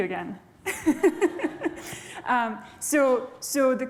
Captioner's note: laughter